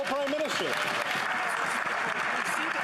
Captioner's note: some Applause